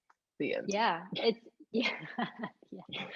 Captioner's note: laughs